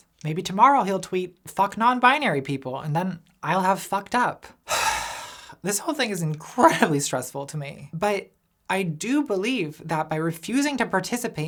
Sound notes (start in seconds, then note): 4.6 sighs